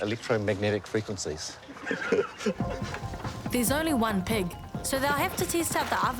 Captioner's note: laughter